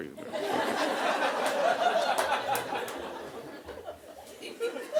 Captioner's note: audience laughing